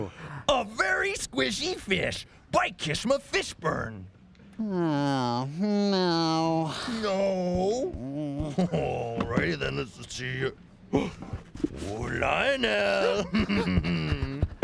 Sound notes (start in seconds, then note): 10.9 gasps